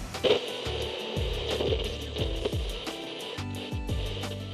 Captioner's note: blender whirring